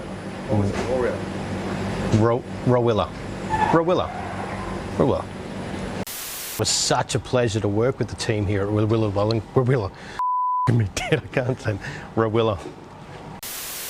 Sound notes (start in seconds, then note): 10.2 beep